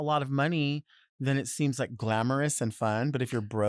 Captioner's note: none